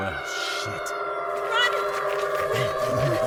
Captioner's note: panting